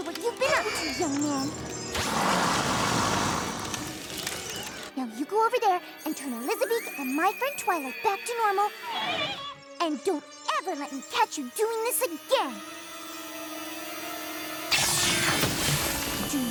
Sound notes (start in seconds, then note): 2.0 growls; 8.8 squawks; 15.1 tinkling